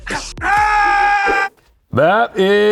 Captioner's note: Seth screams